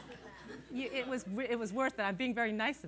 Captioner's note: laughter